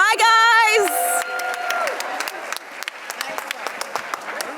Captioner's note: audience cheering